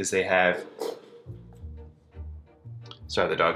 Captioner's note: rattling